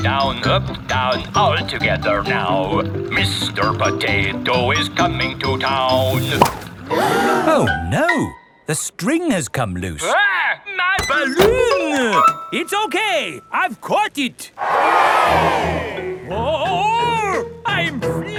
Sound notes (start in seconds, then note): 6.8 all gasp; 14.6 crowd cheers